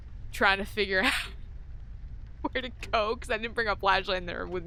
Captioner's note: laughts